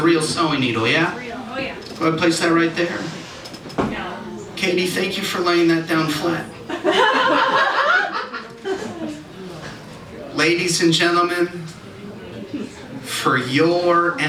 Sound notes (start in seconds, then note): 6.5 audience Reaction